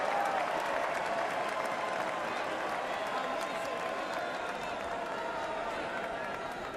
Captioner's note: cheering and applause